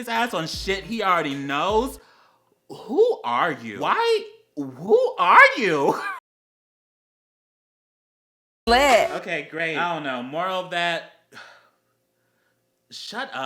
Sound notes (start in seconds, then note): 5.9 laUGHTER; 11.3 le sIGH